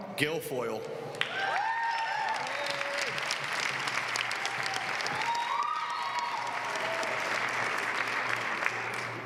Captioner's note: applause